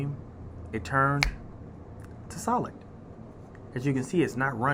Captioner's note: snaps